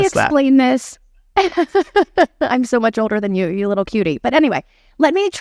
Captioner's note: laughing